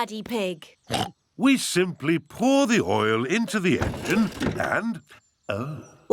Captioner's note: oinks